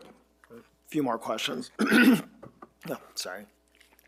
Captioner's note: throat clears